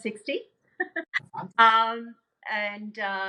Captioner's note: chuckling